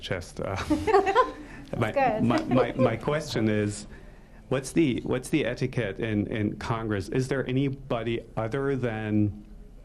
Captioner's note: laughter